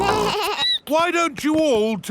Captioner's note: snorts; bleats